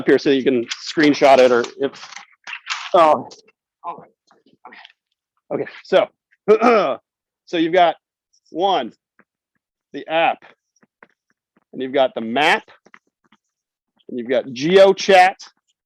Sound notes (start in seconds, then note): 0.4 paper rustles; 6.2 clears throat